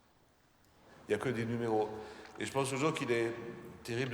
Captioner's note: speaking french